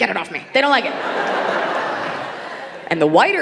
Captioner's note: audience laughing